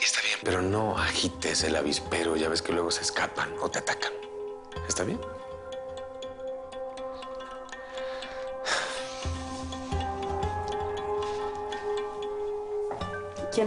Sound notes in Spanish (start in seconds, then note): 7.7 Suspiros